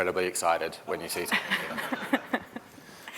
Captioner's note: laughter